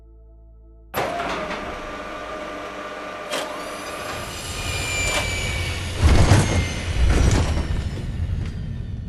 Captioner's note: Vertibird noises